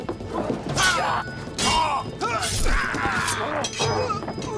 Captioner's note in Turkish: İnilti sesleri; Kılıç sesleri